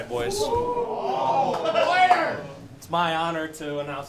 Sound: cheering

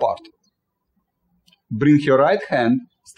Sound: birds chirping

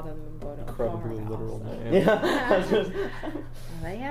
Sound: laughs

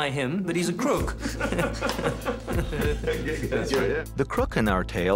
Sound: chuckling

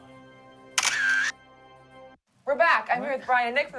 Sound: camera clicks

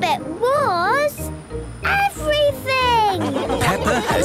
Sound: laughing

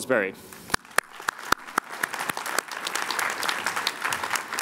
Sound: applause

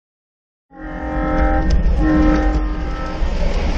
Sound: train horn

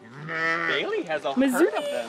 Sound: alpaca sounds

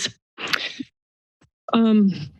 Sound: pause

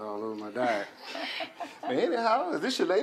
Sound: laughter

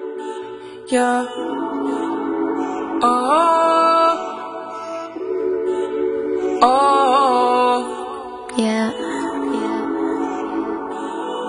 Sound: vocalizing

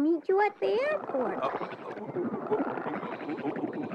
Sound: gurgling

